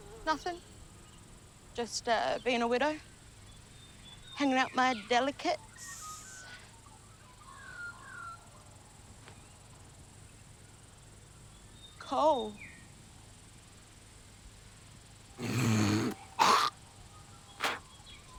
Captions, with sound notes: Nothing, just, ah, being a widow. Hanging out my delicates. (awkward silence) Cool. (hack up a golly)